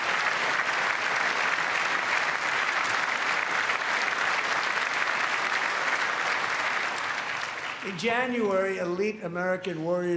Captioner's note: applause